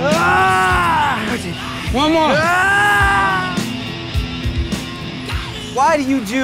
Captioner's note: screams